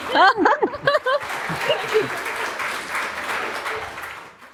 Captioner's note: laughter; applause